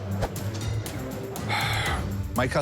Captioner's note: sighs